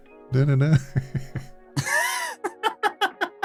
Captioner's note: laughing